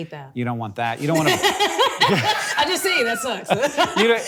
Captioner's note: Akilah laughing